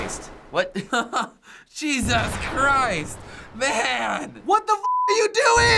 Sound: laughing

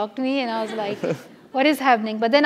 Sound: laugh

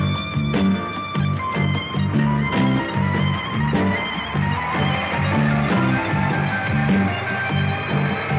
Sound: transit bus engine

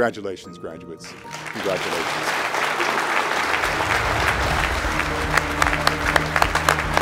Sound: applause, cheers

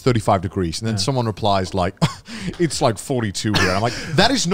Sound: scoffs

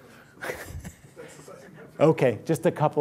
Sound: laughter

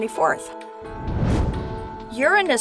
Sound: whoosh

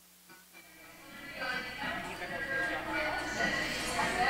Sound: chattering

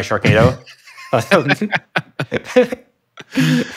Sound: laughing

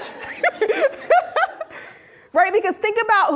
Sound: laughing

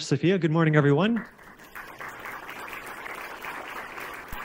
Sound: crowd clapping

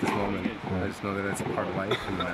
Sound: voiceover

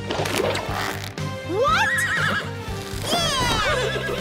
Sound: horse neighs

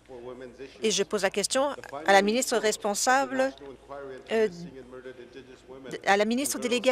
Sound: remarks in Oji-Cree

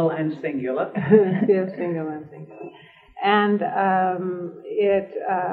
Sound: laughter

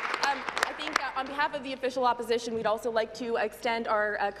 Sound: applause

